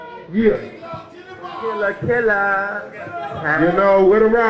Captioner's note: crowd faintly exclaiming